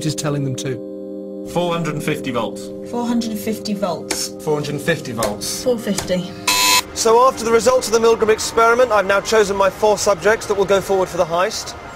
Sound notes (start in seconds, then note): 6.4 buzzer